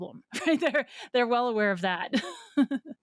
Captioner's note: laughs